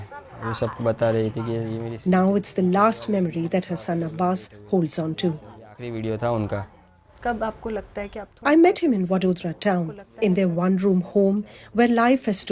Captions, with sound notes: [speaking Gujarati] Now it's the last memory that her son, Abbas, holds onto. [speaking Gujarati] I met him in Vadodara town, in their one-room home where life has